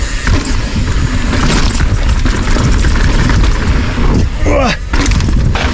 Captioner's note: bike rattling and wheels hitting gravel; grunts